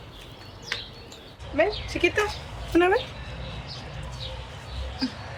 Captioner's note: woman speaking in Spanish